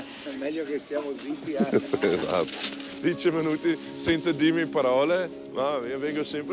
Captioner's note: speaking in Italian